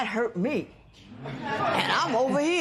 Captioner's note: laughter